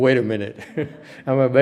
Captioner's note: chuckle